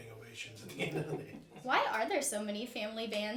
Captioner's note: all laughing